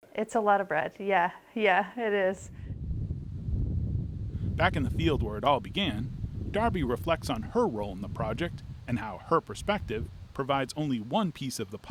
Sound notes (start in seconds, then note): 2.8 wind howling